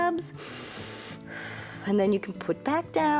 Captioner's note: inhales and exhales